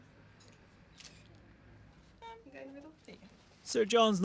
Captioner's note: camera snaps